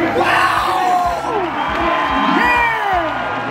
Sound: crowd cheering

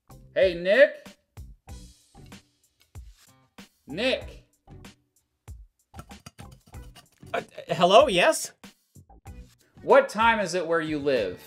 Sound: fumbling over can

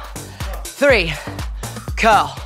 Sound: moaning

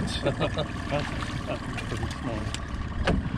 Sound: chuckling

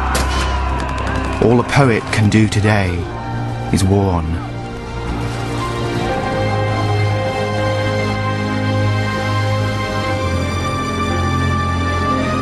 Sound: sounds of soldiers shouting and machine gun fire

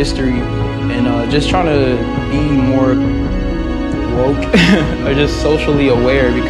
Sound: laughs

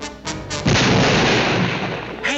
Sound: gun fires

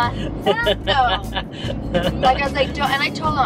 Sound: laughs

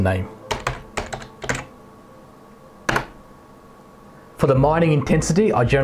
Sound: keyboard typing sound

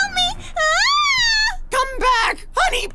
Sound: funny videosHoney Bunny shrieks

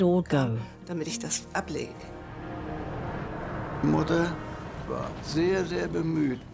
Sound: speaks in foreign language

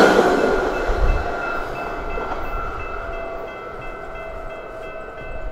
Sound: high-pitched engine noise; engine lowers in pitch as it recedes, slowing down

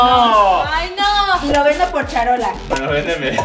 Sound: laughs

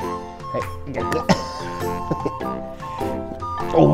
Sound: laughs

